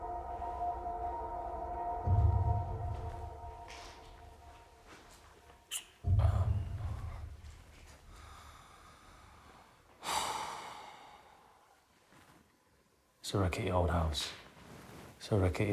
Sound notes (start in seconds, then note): 10.0 Danny sighs